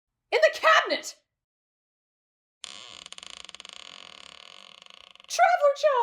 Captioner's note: creaking cabinet door